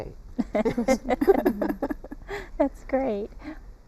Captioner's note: laughter